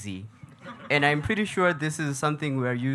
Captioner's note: audience laughing